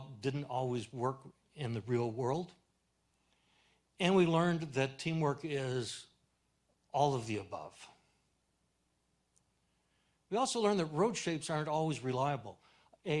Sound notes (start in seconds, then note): none